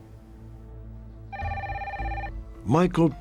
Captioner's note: phone ringing